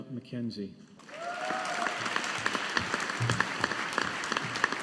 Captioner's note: audience applauding